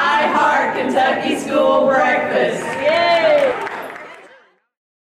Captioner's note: applause